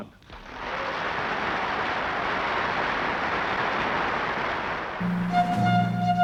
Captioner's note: crowd cheers and applauds